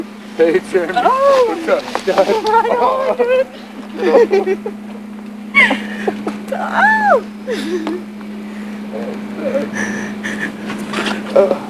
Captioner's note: crying